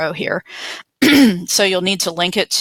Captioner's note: clears throat